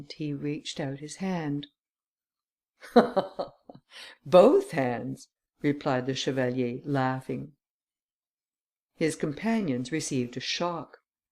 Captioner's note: laughter